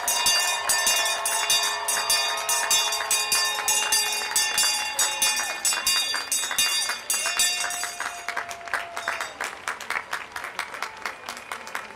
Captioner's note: bell ringing; applause